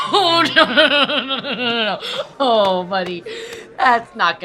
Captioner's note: laughs